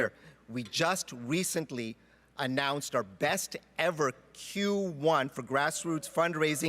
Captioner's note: speaking French